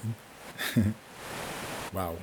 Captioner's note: chuckles